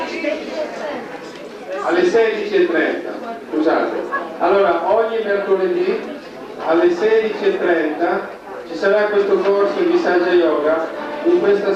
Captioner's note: italian; italian